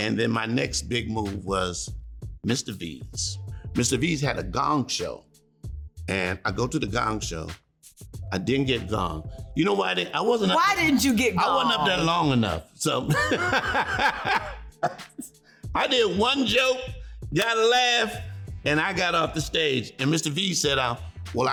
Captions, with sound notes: And then my next big move was Mr. V's. Mr. V's had a gong show, and I go to the gong show. I didn't get gonged. You know why I didn't? I wasn't-- - Why didn't you get gonged? - I wasn't up there long enough. So... [laughing] I did one joke, got a laugh, and I got off the stage. and Mr. V said,